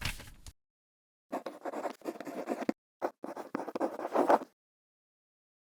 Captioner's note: quill scratching